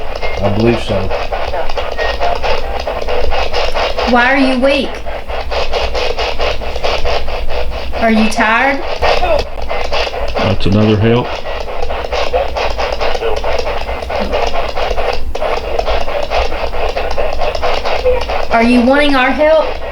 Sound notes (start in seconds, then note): 8.9 radio voice; 12.1 static pulsing